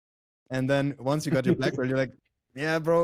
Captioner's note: laughs